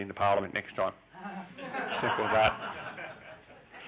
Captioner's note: laughing